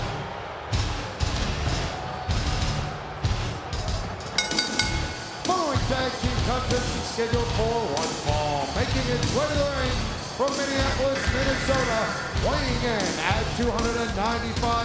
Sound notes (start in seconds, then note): 4.4 bell ringing